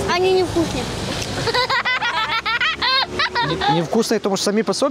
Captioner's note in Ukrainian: сміються